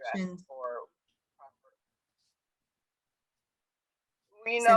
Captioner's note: faintly speaking